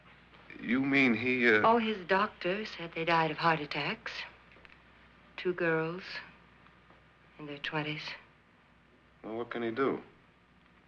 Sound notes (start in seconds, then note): none